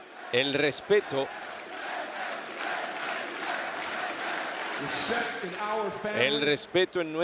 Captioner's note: applause